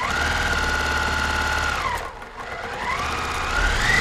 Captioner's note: machine whirring